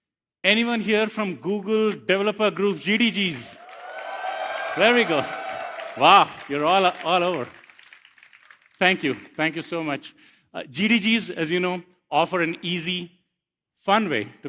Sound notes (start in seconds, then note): 3.5 cheers, applause